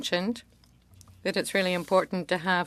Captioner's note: speaking French